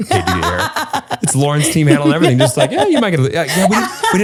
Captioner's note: laughter continues